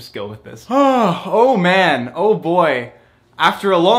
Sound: yawn

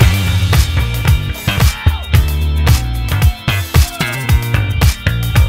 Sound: audience cheers

